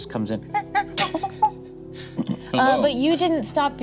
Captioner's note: imitates monkey